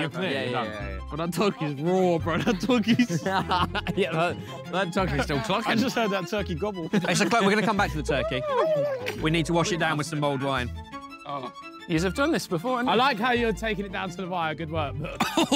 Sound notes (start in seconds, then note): 3.8 Chris laughing